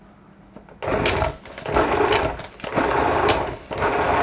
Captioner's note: machine whirs